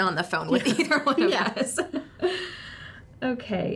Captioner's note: both laugh